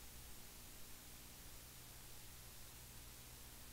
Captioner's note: pause